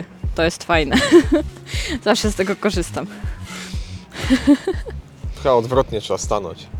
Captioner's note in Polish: śmiech